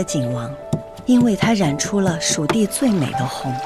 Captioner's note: grinding and mixing